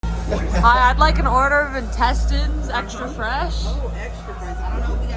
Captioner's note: laughs